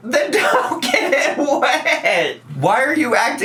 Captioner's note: laughs